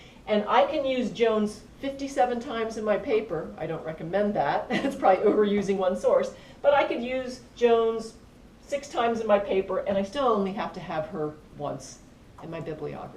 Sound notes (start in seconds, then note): 4.7 laugh